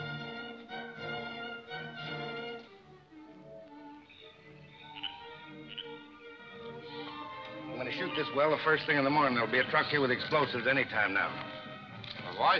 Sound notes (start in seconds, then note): 3.8 frogs croak; 3.8 crickets chirp